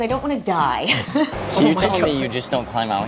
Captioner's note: chuckling